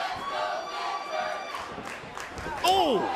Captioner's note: fans chanting